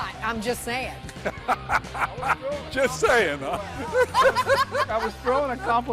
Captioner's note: laughter